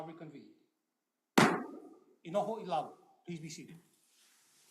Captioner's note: gavel bangs twice